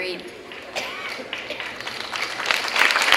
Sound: clapping

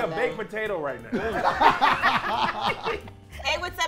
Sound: laughing

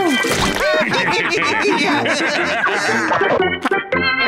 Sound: laughing

